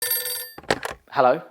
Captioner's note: phone ringing